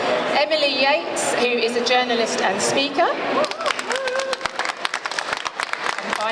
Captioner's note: applause